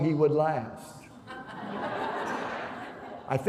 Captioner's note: laughter